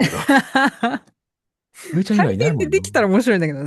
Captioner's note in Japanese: 笑い